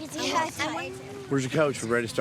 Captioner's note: children chattering